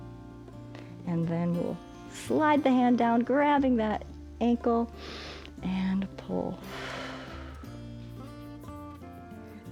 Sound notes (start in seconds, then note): 5.1 inhales; 6.6 exhales